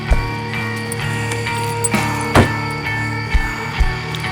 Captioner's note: keys jingle